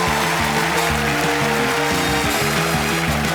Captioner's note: cheers and applause; upbeat music playing